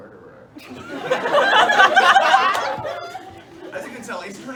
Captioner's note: laughter